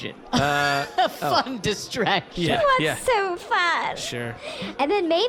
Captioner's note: laughing